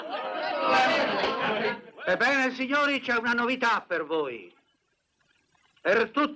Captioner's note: laughing